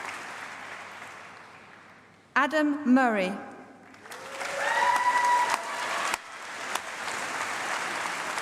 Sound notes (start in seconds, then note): 3.8 applause